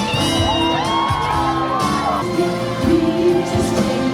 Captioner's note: cheering